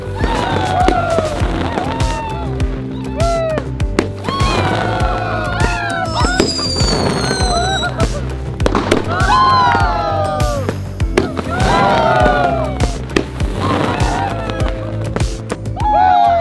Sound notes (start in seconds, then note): 0.1 crackling sound; 6.0 whistling sound; 8.0 crackling sound